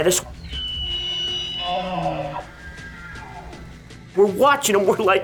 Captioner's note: bulls bugling